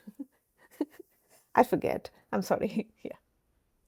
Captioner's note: laughs